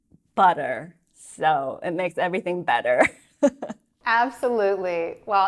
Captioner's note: chuckles